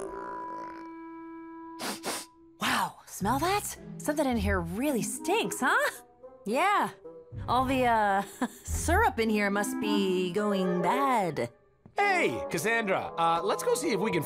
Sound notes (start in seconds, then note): 0.2 snarling; 1.8 sniffs